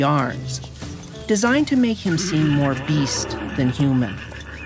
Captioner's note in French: hennissement